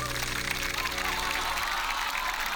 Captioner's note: laughter